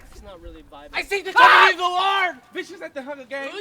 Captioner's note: Report screams